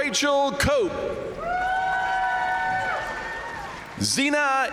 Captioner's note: crowd cheering; crowd applauding